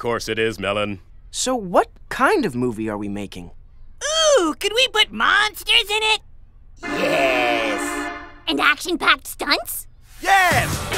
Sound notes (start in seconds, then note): 5.9 in a monster voice